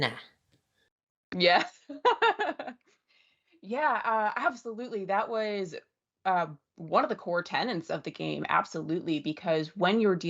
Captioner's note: laughs